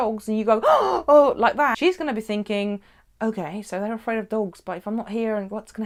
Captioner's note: gasping